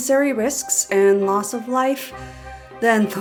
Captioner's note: deep inhale